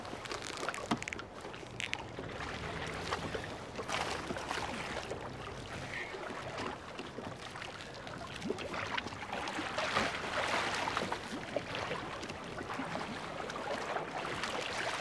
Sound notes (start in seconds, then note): 10.0 water splashing